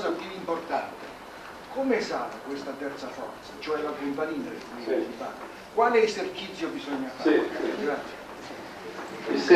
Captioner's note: italian